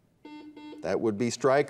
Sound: buzzer beeps

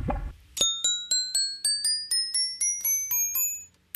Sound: dings

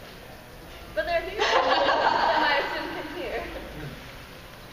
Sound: laughing

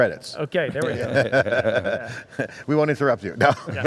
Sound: men laughing

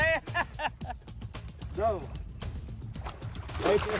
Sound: laughing

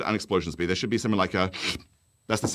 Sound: intake breath

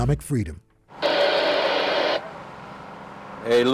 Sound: radio static

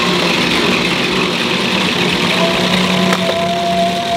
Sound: machine whirring

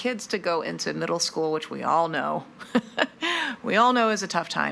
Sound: chuckles

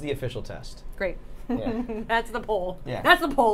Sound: Safiya laughing

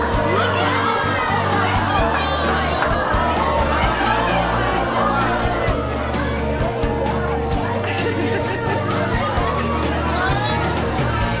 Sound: cheering

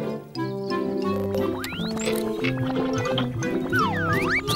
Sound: beeping

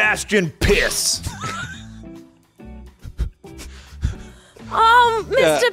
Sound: laughing

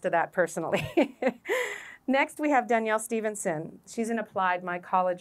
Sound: laughter

